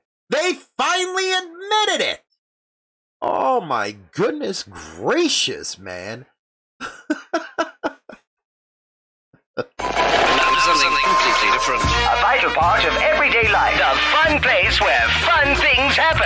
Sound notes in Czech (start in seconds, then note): 9.2 Smích